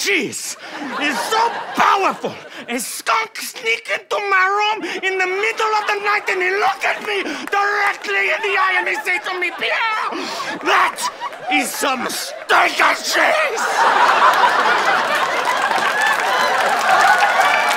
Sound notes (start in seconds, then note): 11.6 laughter; 13.6 applause